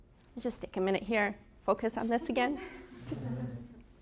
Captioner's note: laughter